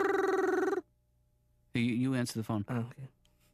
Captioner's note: imitates phone ringing